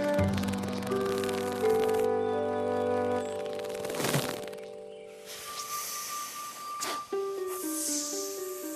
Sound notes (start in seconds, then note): 5.2 hissing